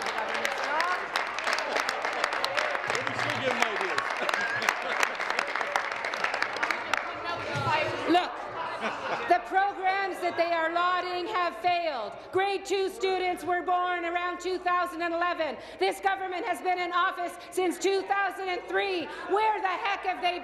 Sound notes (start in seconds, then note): 2.4 applause; 7.6 continued applause